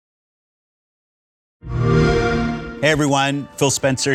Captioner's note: xbox sound